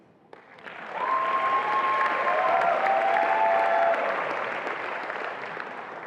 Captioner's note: attendees applauding and cheering